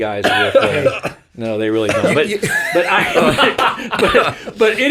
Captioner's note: all laughing